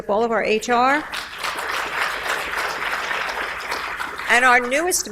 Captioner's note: audience applauds